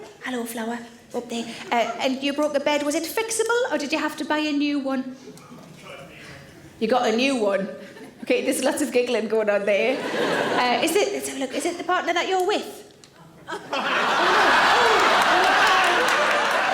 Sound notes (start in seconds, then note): 9.8 audience laughing; 13.4 audience laughing